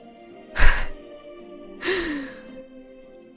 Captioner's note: chuckles